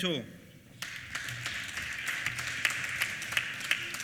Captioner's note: applause